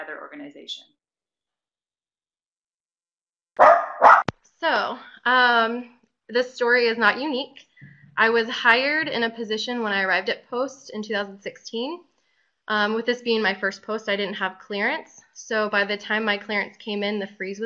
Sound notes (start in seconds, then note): 3.6 dog barking